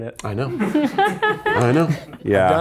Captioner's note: laughs